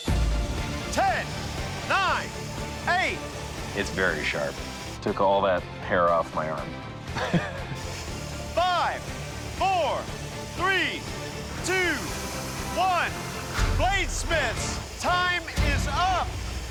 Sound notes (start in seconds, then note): 7.1 chuckles